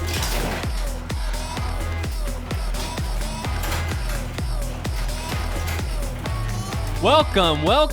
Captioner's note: garage door opening